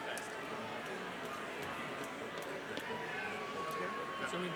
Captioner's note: crowd chattering